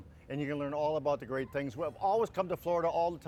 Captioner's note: none